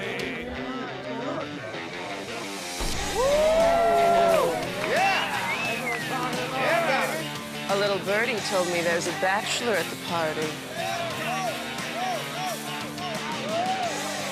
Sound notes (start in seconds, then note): 2.8 party guests cheering; 5.1 party guest whistling; 10.6 party guests cheering